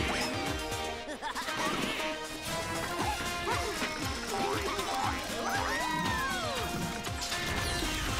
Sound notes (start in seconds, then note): 1.0 laughing; 3.8 giggling; 4.6 cheering